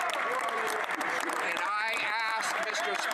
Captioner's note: cheering and Applause